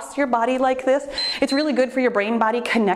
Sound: timer beeps

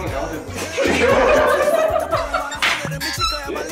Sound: Bangtan laugh

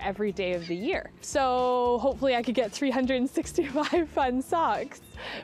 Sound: laughs

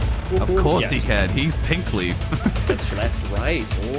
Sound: laughs

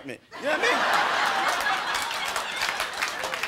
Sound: crowd laughs

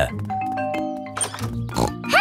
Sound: doorbell rings

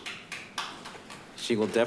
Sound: group clapping

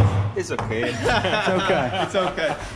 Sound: laughing

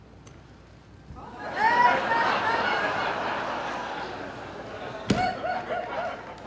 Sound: laughter

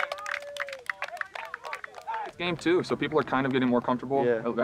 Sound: hands clapping; players cheering

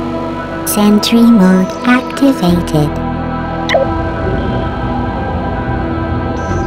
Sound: beep

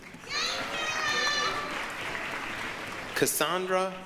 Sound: applause, cheering

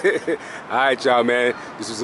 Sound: laughing

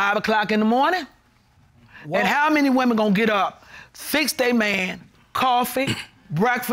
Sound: clears throat

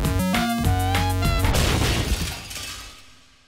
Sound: chiptune music; objects crash

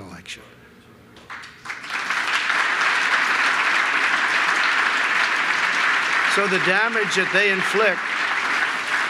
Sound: applause

